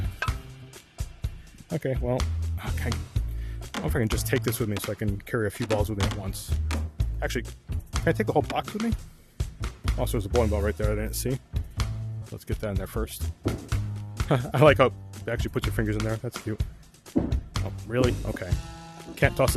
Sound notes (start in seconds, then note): 14.2 laughs